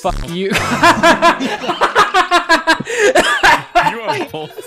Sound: intense laughter as realization hits

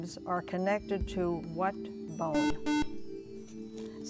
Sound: buzzer

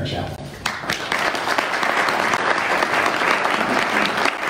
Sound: audience applauds

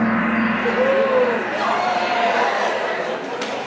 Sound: gong bangs

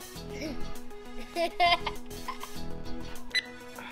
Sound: laughing

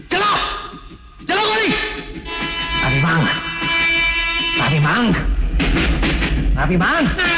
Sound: train horn blares

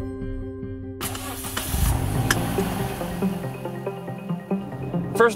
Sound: car engine starts

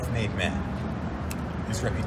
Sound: snaps finger

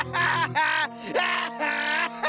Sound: laughing

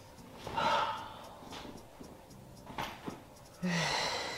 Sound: woman sighing

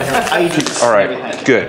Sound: laugh

